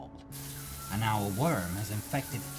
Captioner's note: shower running